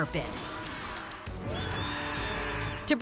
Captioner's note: screeching